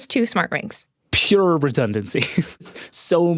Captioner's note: laughs